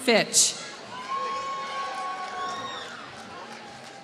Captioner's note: applause